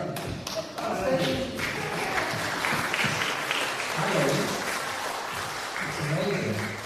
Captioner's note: applause